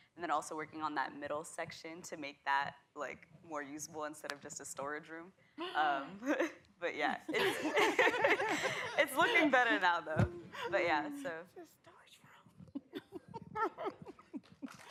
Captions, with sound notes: And then also working on that middle section to make that like more usable instead of just a storage room. But yeah-- [laughter] It's looking better now though. It's your storage room.